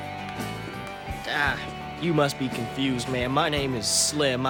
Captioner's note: in southern accent